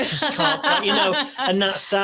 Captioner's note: audience Laughing